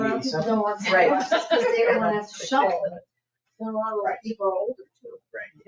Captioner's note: people chattering